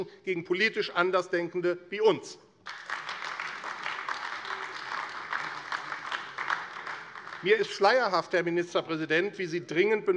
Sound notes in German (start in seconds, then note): 2.6 Beifall AfD